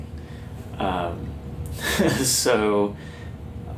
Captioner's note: laughs